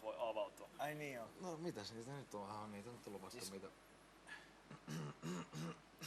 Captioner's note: coughs